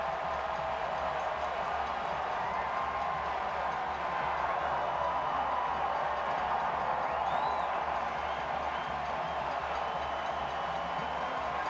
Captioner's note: cheering and applause